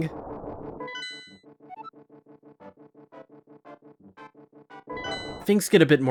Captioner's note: gameplay audio